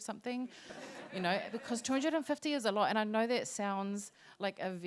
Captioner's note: laughter